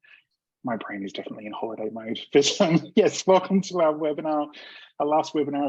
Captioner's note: laughs